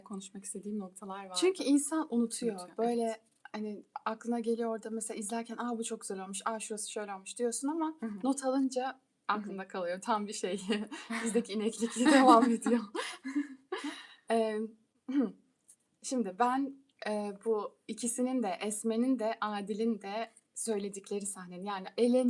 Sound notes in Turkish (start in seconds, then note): 11.8 kahkaha; 13.9 boğazını temizler